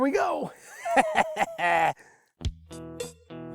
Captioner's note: laughs